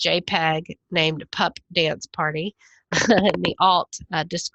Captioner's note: laughs